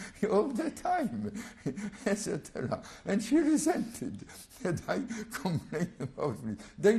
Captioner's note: laughs